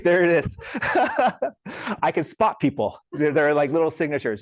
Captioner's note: laughs